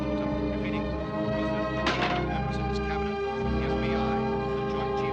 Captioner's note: radio becomes faint, continues